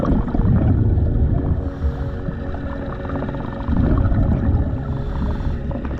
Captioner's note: underwater sounds continue